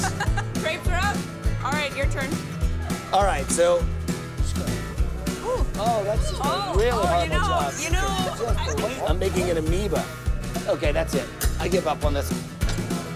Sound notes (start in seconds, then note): 8.0 laughing